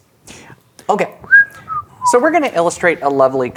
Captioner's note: whistling